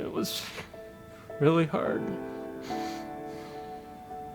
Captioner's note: sobs